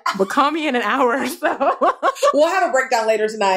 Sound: laughter

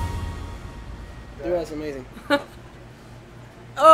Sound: laughing

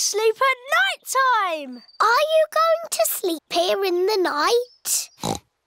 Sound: oinks

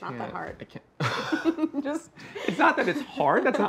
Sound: laughs

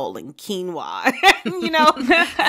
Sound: laughter

